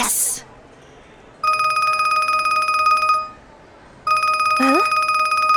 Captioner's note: phone rings